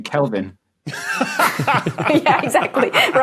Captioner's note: guests crack up; laughs uproariously